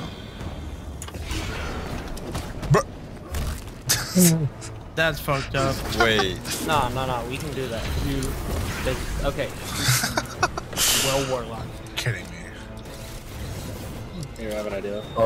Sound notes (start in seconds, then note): 3.7 chuckles; 5.2 chuckling; 9.6 chuckling